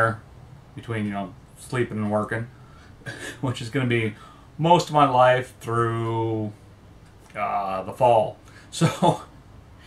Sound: laughs

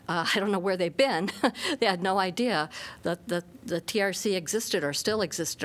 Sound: laughter

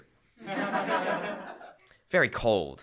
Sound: laughter

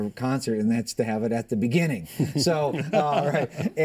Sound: laughter

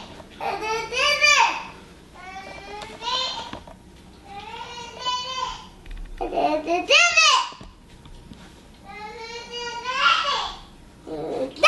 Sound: kids voices

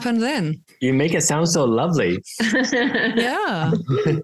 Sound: laughs

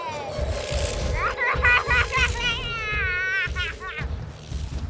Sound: manically Laughing

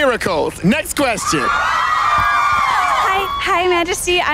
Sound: girls scream

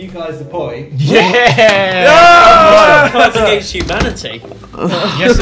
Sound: students cheers

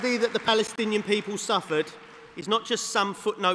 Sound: applause

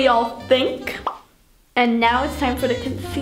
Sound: pop

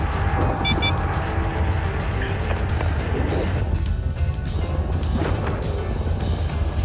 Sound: sensor attack alert

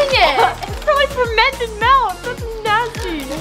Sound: gags

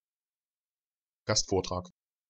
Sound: fast Pronunciation

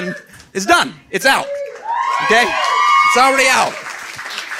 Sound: audience cheering

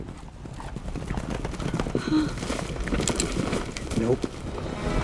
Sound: horse cantering

